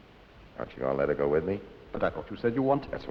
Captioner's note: none